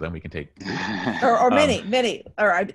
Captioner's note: laughing